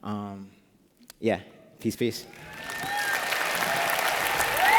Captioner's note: applause